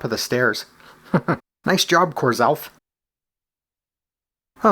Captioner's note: chuckles